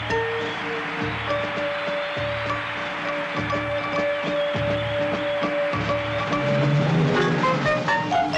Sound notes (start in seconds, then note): 2.8 crowd cheering continues